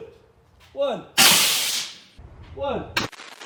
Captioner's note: banging